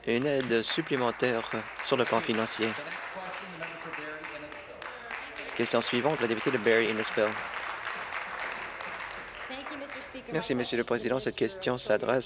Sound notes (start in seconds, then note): 3.4 applause; 8.4 applause